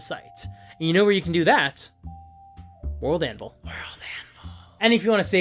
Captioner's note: Whispers: WorldAnvil…